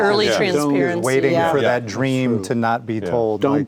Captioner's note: group chattering